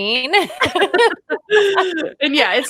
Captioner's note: laughter